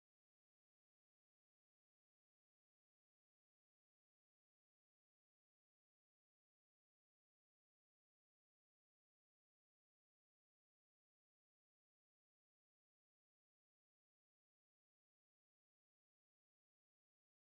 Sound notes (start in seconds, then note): none